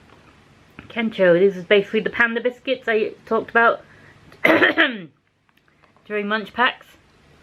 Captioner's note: ahem